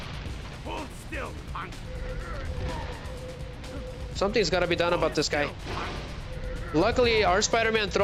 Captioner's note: groaning